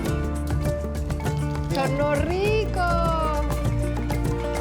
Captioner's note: speaks Spanish